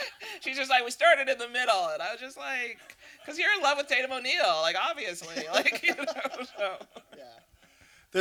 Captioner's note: laughter